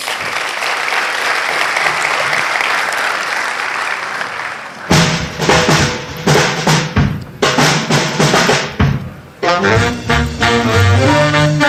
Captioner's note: applause